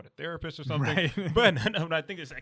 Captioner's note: laughs